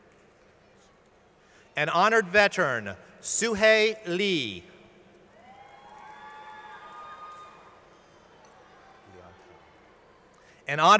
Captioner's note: applause